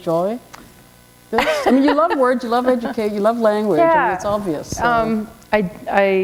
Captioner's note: chuckle